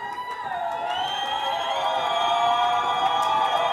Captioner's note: audience cheering